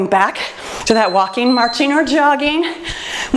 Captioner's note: timer beeps